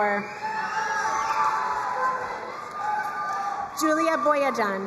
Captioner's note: crowd cheering and applauding